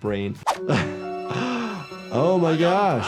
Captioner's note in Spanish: se ríe; jadea